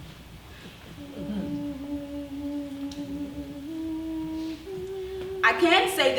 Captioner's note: a woman humming " "